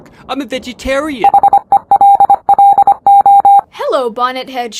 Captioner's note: robot beeping